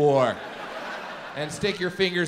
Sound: audience laughs

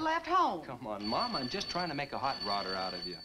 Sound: phone ringing

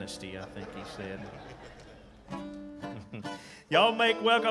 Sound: audience laughing

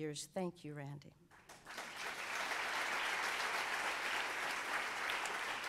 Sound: audience applauds

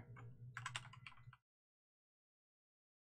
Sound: keyboard clicking

